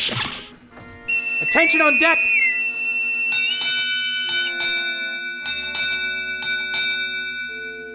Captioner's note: bosun's whistle; ship’s bell